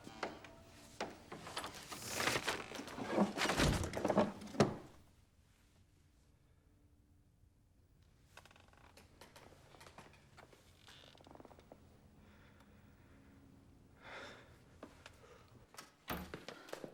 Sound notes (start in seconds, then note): none